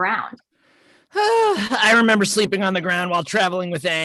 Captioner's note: sighs